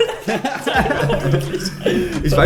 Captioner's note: laughing